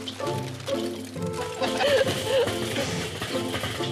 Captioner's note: chuckling